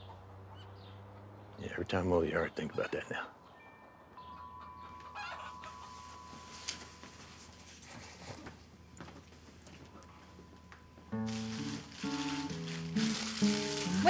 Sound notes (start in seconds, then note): 3.1 wind chimes clinking; 4.6 chicken squawking; 11.0 gentle bright guitar music